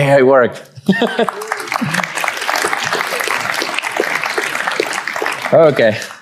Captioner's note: laughs; audience applauds